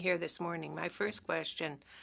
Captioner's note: speaking French